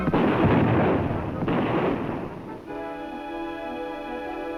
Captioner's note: hunters chattering; gunshot firing